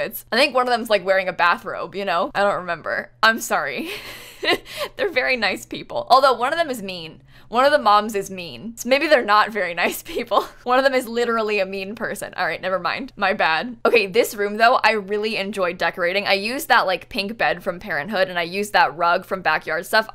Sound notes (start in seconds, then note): 3.9 laughs